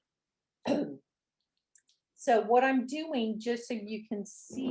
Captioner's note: clears throat